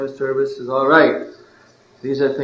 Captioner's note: laughing